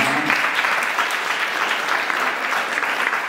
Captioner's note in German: Beifall